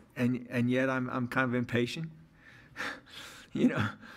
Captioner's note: laughs